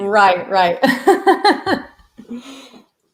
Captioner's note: laughing